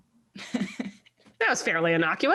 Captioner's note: laughing